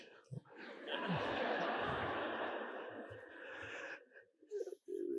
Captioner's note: audience laughing